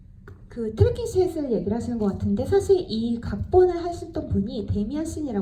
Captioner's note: speaks in foreign language